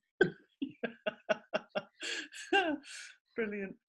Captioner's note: laughing